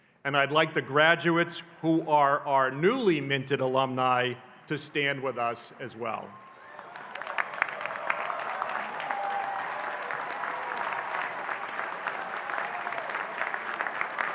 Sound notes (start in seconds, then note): 6.4 audience cheering and applauding